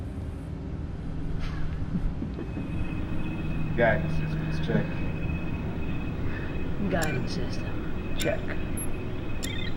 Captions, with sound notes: ( FAINT CHUCKLING ) Guidance systems, check. Guidance system, check.